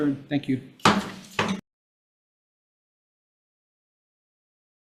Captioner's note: gavel pounds